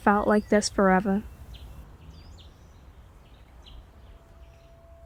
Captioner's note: A sharp noise, to indicate time passing